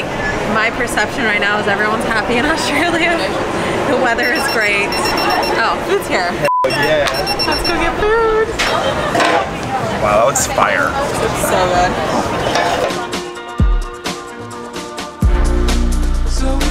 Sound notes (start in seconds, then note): 3.5 laughing; 4.2 table notifier beeping; 6.9 beep; 13.0 upbeat music